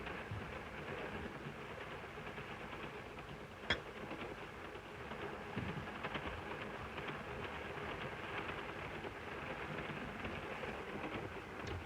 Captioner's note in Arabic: صوت خشخشة القطار